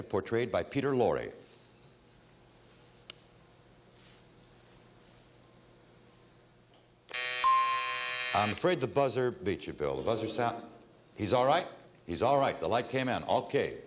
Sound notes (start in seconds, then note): 7.0 timer buzzing; 7.4 bell dinging